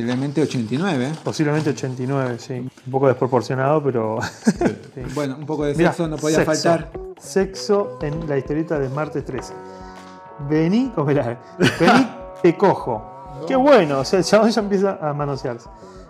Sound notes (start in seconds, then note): 4.2 ha ha ha